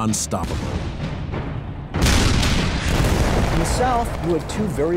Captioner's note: explosions booming